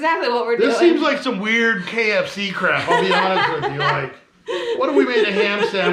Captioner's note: chuckling